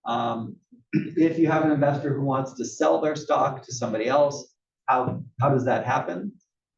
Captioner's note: cough